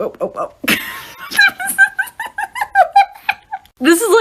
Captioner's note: laughs